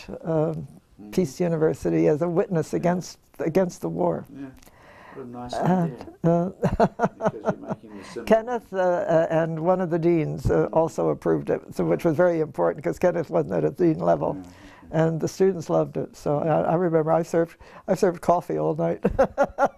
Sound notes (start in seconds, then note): 6.0 laugh